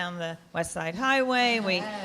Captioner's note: laughing